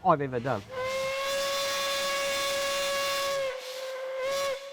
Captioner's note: train whistles